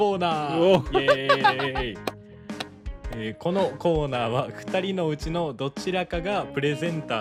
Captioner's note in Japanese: 笑い